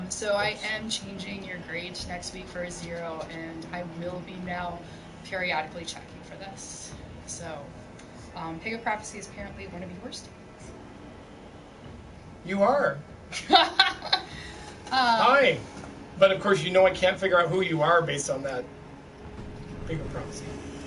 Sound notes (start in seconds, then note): 13.3 laughter